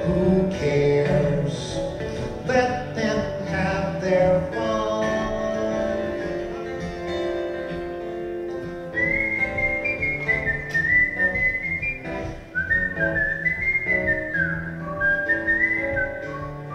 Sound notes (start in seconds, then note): 8.9 whistling